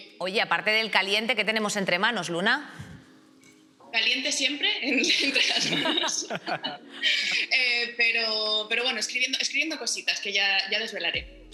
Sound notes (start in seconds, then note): 4.9 laughter